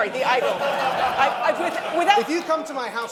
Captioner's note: laughter